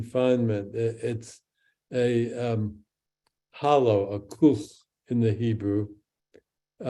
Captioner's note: speaks in Hebrew